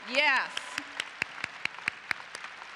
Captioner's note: applause